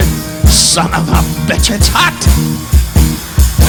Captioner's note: audience laughing